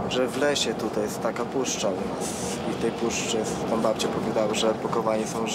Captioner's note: speaking Polish